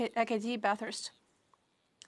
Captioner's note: speaking French